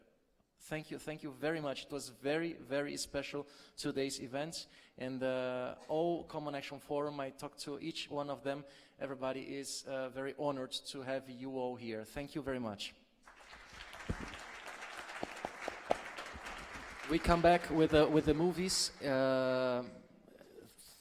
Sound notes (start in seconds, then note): 13.2 applause